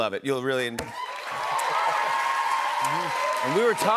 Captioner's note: cheers and applause